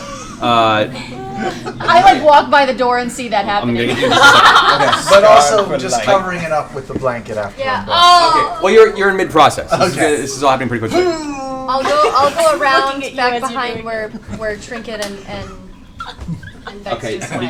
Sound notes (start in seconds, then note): 3.8 laughter; 10.9 grunts